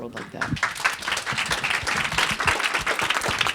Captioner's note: applause